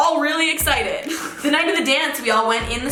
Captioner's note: laughing